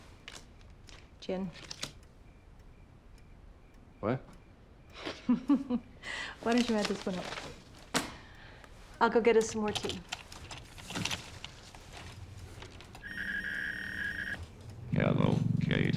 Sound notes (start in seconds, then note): 4.9 laughs; 6.4 papers rustling; 12.8 beeping